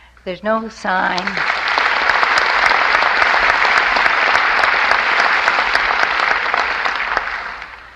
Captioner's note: applause